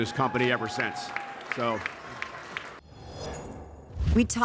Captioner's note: audience applauding